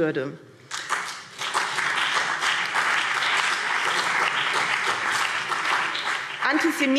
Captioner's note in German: Beifall BÜNDNIS 90/DIE GRÜNEN und CDU